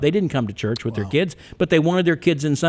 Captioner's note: clicks tongue